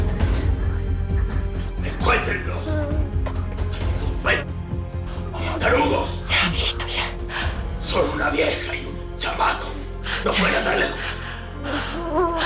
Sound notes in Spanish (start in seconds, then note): none